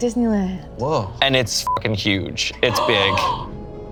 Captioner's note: beep